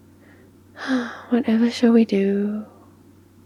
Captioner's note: sighs